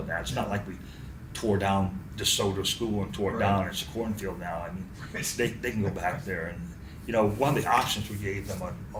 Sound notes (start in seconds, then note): 6.8 laughs